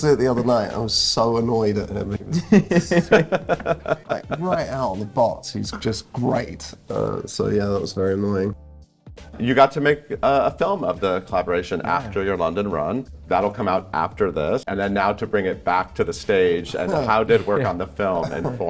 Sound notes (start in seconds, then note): 2.4 Pope laughing